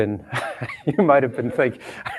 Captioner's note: laughter